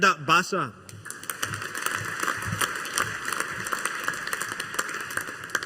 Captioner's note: audience applauding